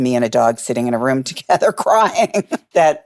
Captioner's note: laughing